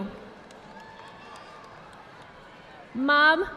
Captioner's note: audience applauding